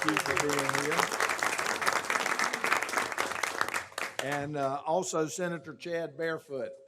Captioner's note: applause